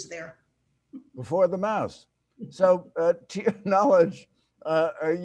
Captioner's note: chuckles